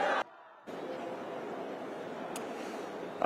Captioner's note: chanting